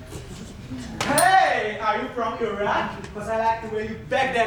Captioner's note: ding